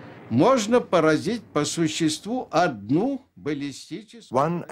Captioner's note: speaking Russian